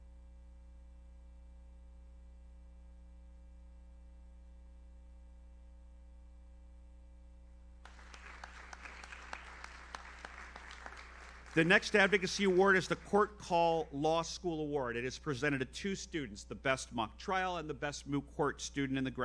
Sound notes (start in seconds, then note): 7.8 audience applauds